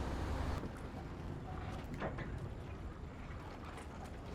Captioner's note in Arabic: صوت تناثر الماء